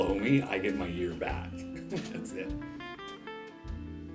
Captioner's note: laughs